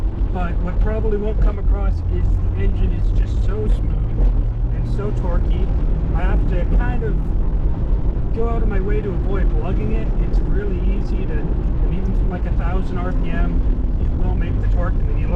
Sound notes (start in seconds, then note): 8.7 heavy throttle at too low rpm